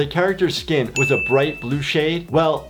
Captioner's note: bell dings